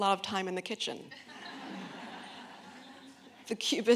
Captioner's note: audience laughing